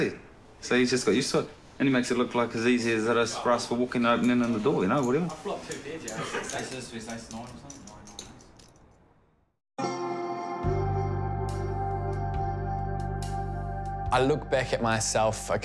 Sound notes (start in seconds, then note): 7.2 indistinct chatter, chips click; 11.7 bright music